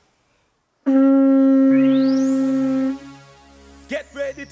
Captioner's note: horn blowing